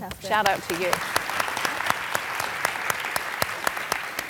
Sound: applause

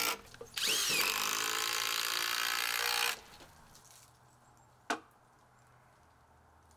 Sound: drill grating; drill whirring

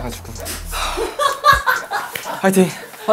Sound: spectators burst laughing

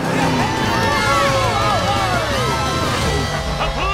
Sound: cheering

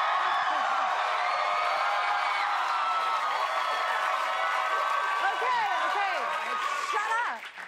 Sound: cheers and applause

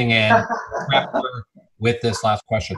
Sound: laughing

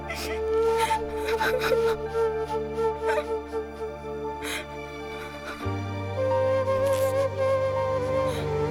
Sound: crying

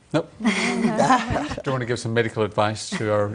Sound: laughter

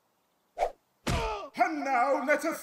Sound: smack!

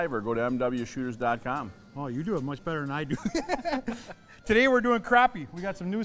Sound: laughing

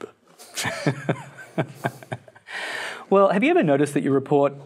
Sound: laughs

